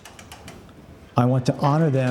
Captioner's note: lever clicking